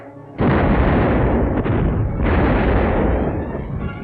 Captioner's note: cannons booming